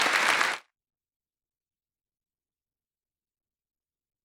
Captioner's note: applause